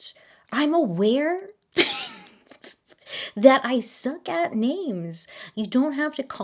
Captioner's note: laughing